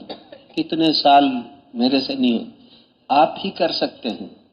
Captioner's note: clears throat